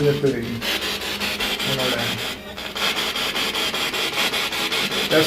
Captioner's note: radio noise from the spirit box